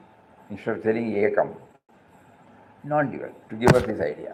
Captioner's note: speaks in foreign language